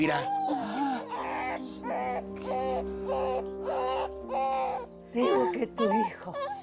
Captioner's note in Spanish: Llanto del bebé